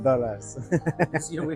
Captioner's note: giggle